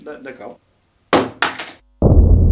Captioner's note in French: Bruit du téléphone qui tombe